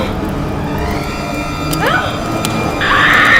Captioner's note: Leah moaning; screaming